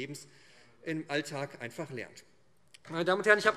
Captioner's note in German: Beifall SPD und Freie Demokraten